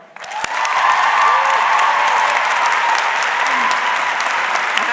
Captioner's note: audience clapping